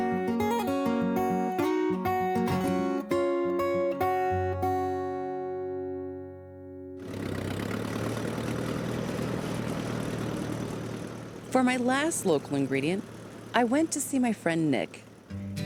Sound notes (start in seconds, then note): 7.2 tractor roaring